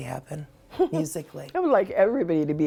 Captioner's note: laughs